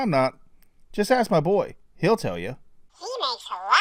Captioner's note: kids voice